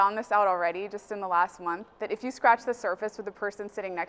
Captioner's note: none